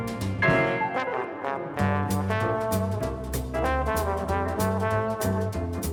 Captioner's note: a throaty horn enters the chat